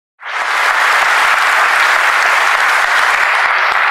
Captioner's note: applause